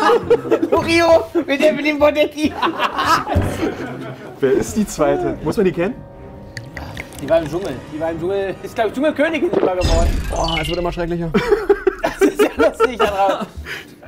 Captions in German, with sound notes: Loriot mit Evelyn Burdecki. (Lachen) Wer ist die Zweite? Muss man die kennen? (Gluckern) Die war im Dschungel. Die war im Dschungel, ist, glaub ich, Dschungelkönigin geworden. Oah, es wird immer schrecklicher. (Lachen, Gemurmel)